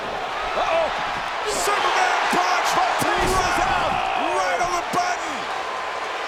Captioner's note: applause